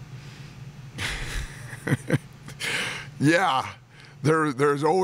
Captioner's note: laughs